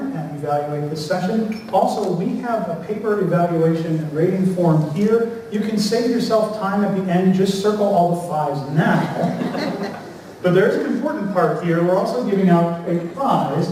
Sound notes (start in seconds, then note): 8.9 laughter